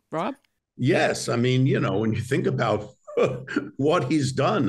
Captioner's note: laughs